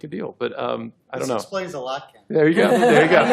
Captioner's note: laughter